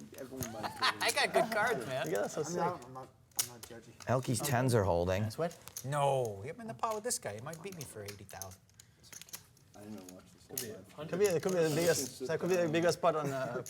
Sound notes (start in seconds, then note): 0.4 laughs